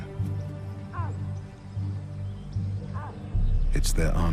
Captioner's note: cubs squeaking